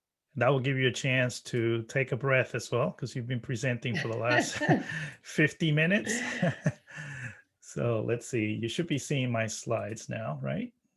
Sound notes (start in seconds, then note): 6.0 laughs